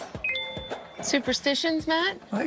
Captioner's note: notification dings